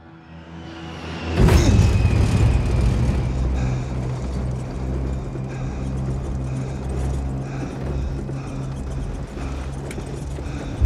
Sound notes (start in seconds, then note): 1.3 grunts, aircraft rattling; 2.5 panting, aircraft rattling